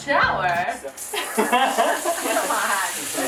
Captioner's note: water turns on; laughs